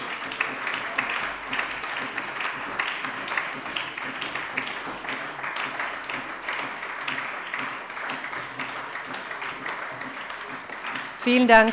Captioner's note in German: Beifall